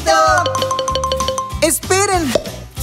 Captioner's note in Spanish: Sonido de campana